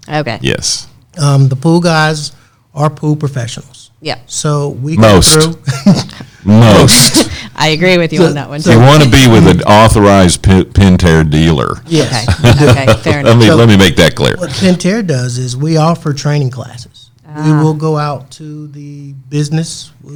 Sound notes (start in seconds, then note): 11.9 laughs